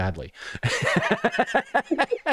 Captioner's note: laughter